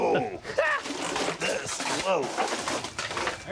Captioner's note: squealing